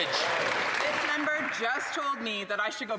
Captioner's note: applause